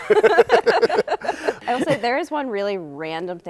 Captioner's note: laughter